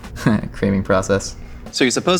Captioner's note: chuckles